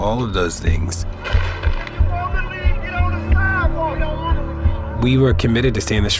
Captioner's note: gunshots firing; protesters chanting